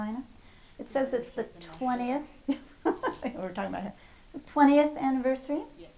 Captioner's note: laughs